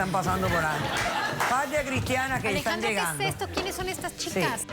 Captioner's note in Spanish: risas